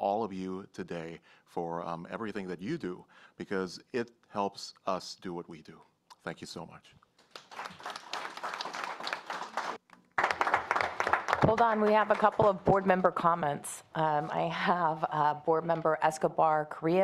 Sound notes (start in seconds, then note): 4.1 applause